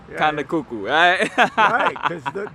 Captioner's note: giggles